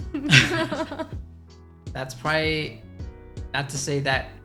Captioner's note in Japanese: 二人とも笑う